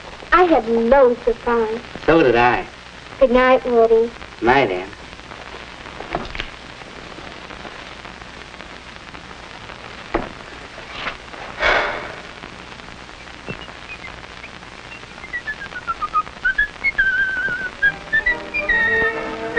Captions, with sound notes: I had loads of fun. So did I. Goodnight, Woody. Goodnight, Anne. *sigh of relief* *cheerful whistling*